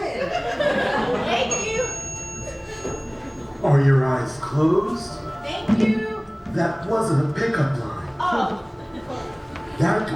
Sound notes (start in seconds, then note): 1.4 ding